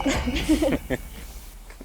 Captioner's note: both laugh